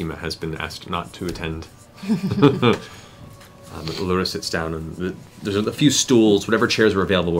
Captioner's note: chuckles